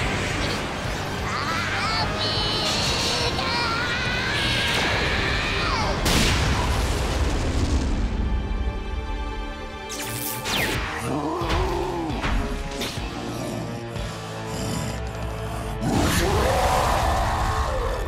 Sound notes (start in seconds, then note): 9.7 electricity crackles; 12.9 pants, roars